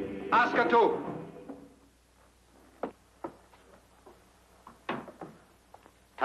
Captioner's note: speaks foreign language